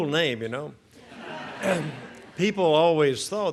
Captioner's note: audience laughs